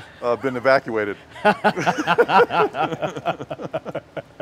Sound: laughter

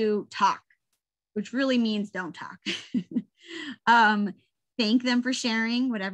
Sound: laughs

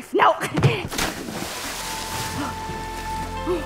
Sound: splash; panting

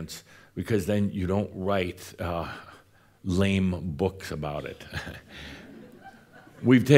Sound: a few chuckles

